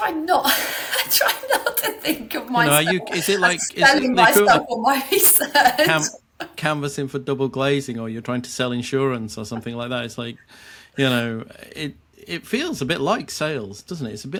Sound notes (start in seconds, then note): 0.4 chuckling